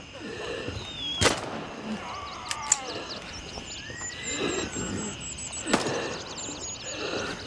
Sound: birds chirping; gunshot; gunfire

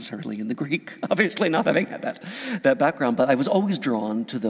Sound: laugh

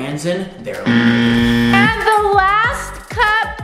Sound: buzzer sounds

